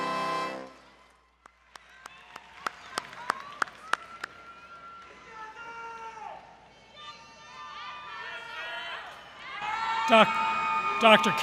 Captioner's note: applause & Crowd Cheering